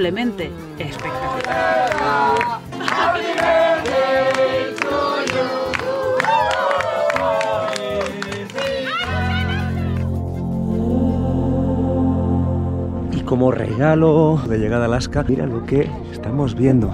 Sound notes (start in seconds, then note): 4.8 applause